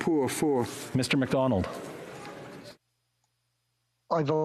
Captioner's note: speaking French